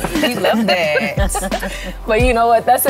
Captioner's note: laughter